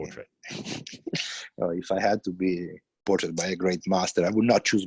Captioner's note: laughs